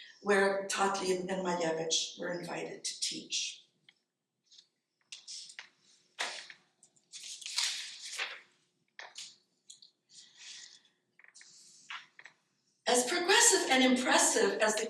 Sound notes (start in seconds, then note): 6.8 paper rustling